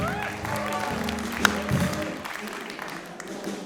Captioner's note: applause; choir singing